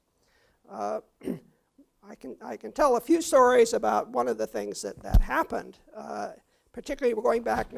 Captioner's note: cough